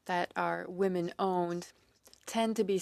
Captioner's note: speaking french